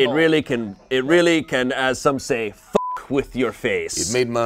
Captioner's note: beep